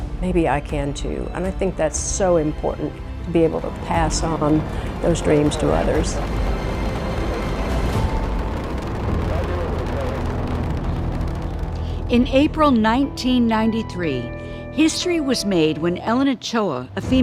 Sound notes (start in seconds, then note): 6.8 rocket engine roaring